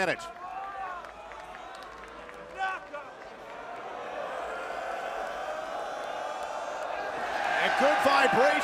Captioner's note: crowd cheering